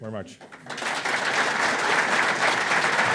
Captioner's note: applause